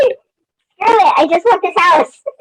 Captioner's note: laughs